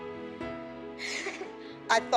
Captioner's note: chuckles